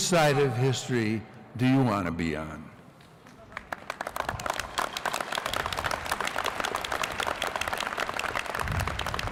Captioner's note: applause